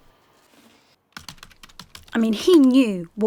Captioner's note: keyboard typing